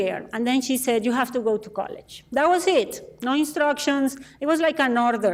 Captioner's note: none